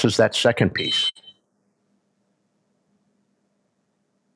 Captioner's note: whistle blows